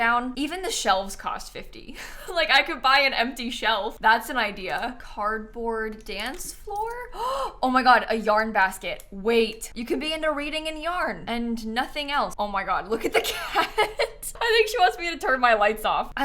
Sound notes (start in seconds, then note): 7.1 gasps